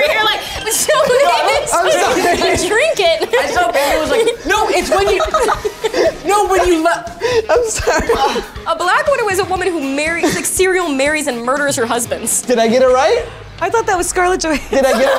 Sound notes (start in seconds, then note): 3.1 laughs